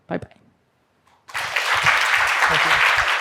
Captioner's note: applause